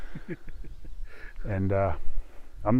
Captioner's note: chuckles